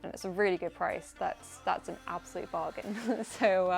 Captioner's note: laughs